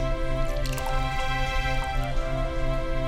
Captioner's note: liquid pours; cork pops; classical music